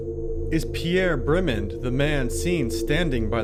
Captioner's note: voiceover